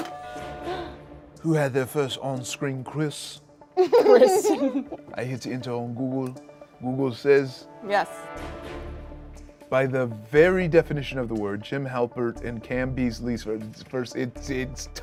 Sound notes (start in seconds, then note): 0.1 buzzer rings; 3.8 laughs